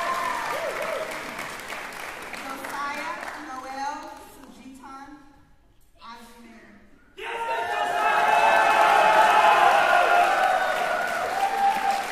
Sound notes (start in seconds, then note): 7.2 cheering